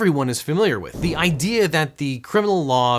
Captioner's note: air whooshing